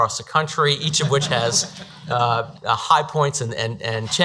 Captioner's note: audience laughs